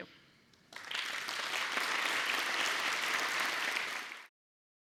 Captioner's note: audience applauding